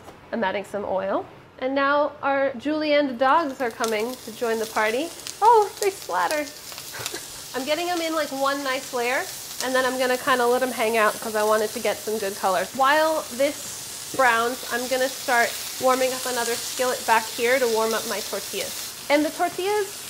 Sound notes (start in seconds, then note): 6.9 laughs; 19.1 sizzling